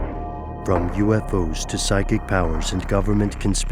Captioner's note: voiceover